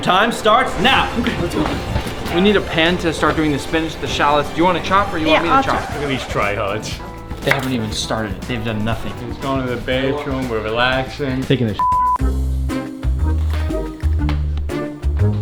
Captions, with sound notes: And your time starts now! We need a pan to start doing the spinach and the shallots. Do you want to chop or do you want me to chop? Yeah, I'll chop. Look at these try-hards. They haven't even started. They've done nothing. He's going to the bedroom. We're relaxing. He's taking a (beep). Oh, hey. What the freak? You guys are starting?